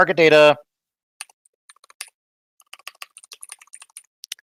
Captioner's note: typing